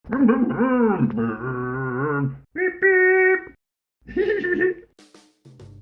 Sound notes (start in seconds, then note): 0.1 Scruff makes scooter noises; 4.0 Scruff laughs